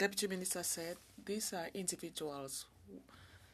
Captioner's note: speaking French